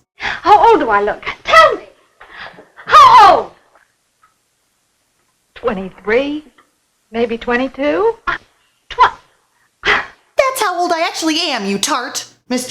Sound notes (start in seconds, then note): 9.8 gasp